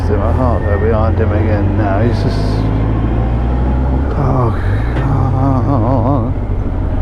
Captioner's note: moaning